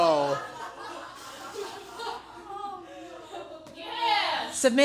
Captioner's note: laughing